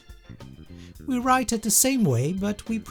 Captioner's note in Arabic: الانكليزية